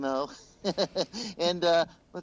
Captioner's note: chuckles